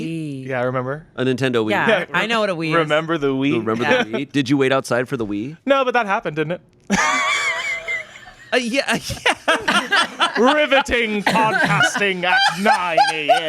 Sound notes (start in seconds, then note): 7.0 laughing